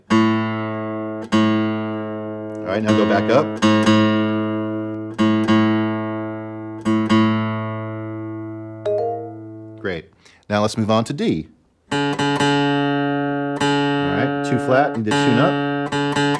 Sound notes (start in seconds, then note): 0.1 guitar strumming; 4.2 guitar strumming; 8.8 app chiming; 11.9 guitar strumming